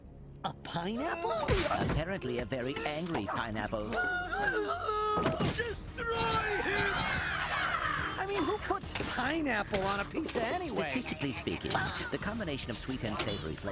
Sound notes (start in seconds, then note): 3.8 yelling; 7.1 toppings shrieking